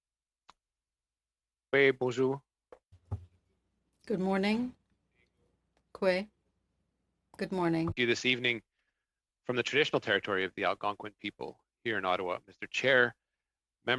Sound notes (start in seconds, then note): 9.5 speaking FRENCH